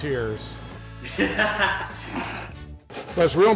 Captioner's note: laughing